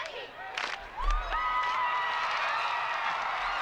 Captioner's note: screaming; crowd cheering